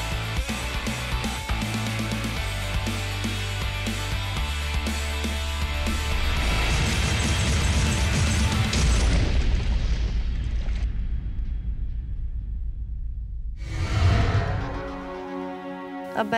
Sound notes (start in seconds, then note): 6.2 shattering explosion; 13.6 dramatic music; 13.7 whoosh